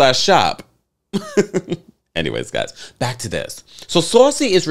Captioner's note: laughs